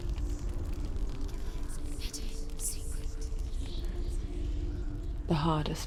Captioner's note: whispering